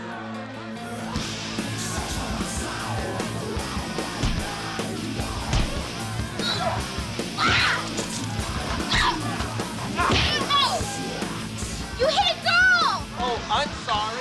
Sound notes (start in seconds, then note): 7.3 girl screaming